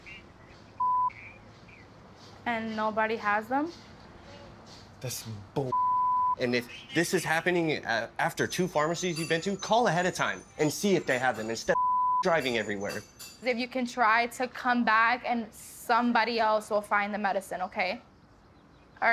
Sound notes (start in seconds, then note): 0.8 beep; 5.7 beep; 11.7 beep